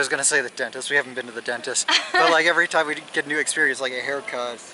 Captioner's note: laughter